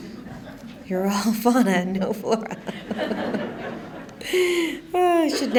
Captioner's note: laughing